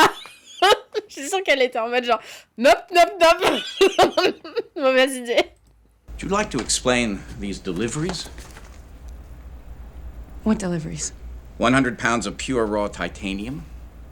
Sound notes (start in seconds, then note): 3.3 laughs